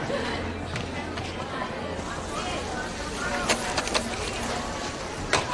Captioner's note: sizzling